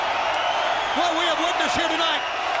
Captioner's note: crowd chatter